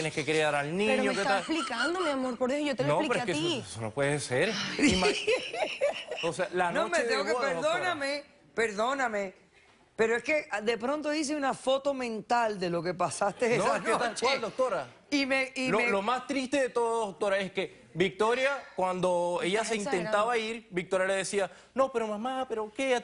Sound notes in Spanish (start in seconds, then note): 4.6 Risas